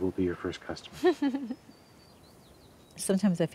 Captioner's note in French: rires